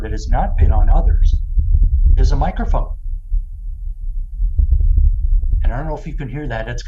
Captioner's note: Low bass sound of wind on Mars